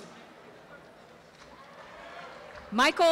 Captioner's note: applause